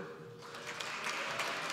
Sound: applause

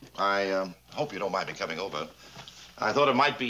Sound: none

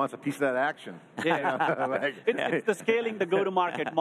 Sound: guests laughing; chuckles

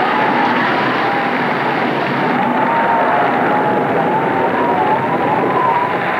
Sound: storm drowning out voices

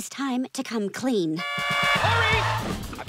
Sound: honking

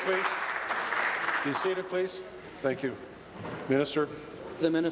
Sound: some Applause

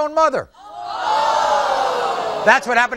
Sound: audience screaming

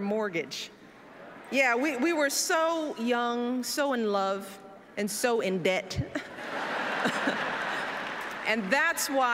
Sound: laughter

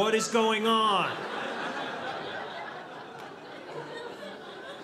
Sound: audience laughing

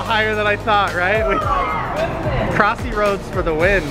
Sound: kids exclaiming

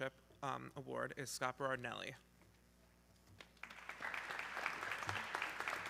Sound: audience clapping

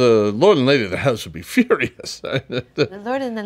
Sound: laughs

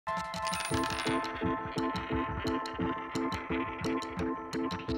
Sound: upbeat music; coin spinning

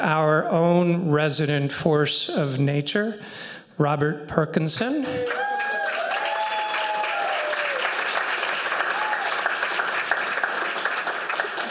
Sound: applause

